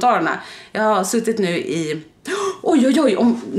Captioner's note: gasping